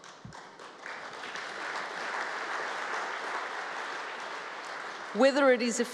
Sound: applause

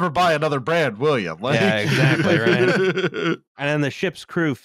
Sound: laughs

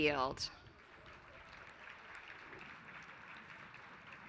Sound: applause

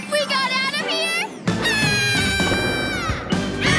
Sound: screaming

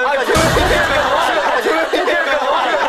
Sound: exploding

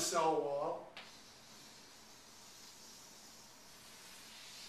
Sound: chalk on board

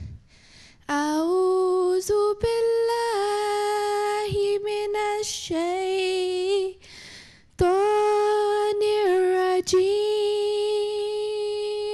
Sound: recitation of the Holy Quran in Arabic

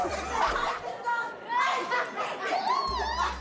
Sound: laughs

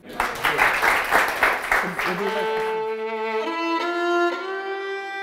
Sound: applause

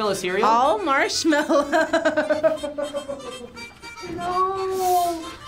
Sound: laughs

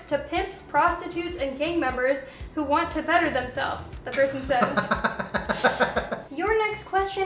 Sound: laughter

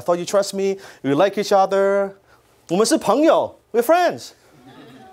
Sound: speaks in foreign language; laughter

